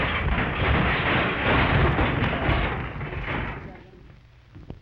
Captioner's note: punch cracking; furniture clattering